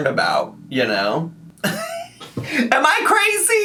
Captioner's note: laughs